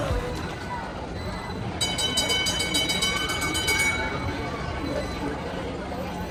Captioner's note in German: Straßenbahn klingelt; Fahrgeräusche Straßenbahn